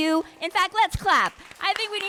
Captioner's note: audience clapping